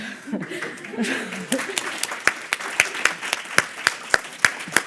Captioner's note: audience applauding